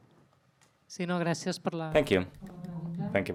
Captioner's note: speaks in a foreign language